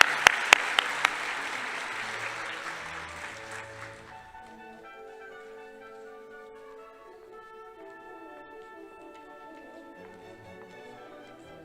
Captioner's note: applause